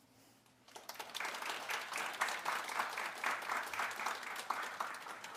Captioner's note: audience applauding